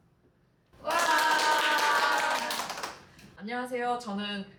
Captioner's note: applause and cheers